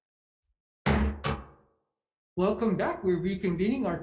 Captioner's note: gavel thud